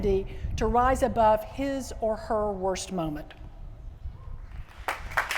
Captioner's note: applause